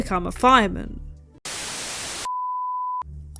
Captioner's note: static